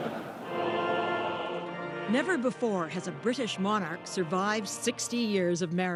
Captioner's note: laughter